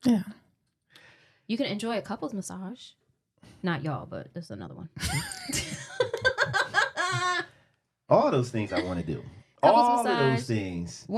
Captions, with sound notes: - Yeah. - You can enjoy a couple's massage. Not y'all, but there's another one. (laughing) - All those things I wanna do. - All those massage. - All those things.